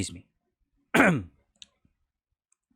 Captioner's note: clears throat